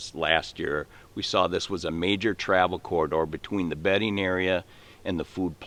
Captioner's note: none